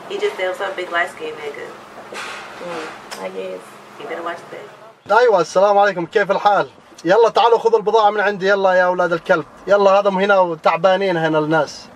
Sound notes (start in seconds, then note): 5.3 man speaking Arabic